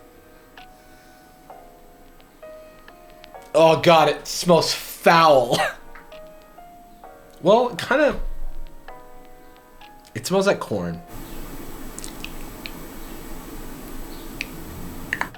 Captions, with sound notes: Oh God, it smells foul. (coughs) Well, it kinda, it smells like corn.